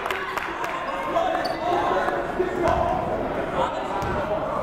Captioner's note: yelling